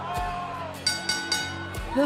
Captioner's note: bell ringing